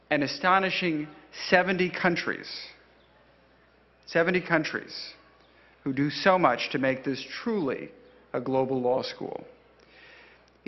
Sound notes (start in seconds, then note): none